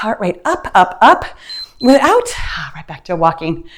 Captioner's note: timer beeps